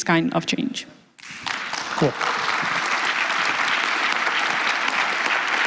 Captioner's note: applause